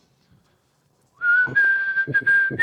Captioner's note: whistles